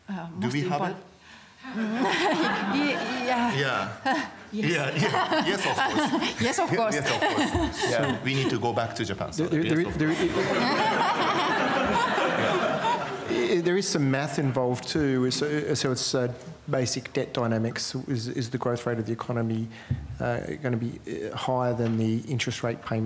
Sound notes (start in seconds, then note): 10.0 laughter